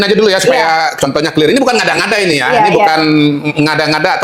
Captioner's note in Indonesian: tertawa